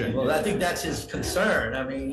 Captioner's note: everyone chuckles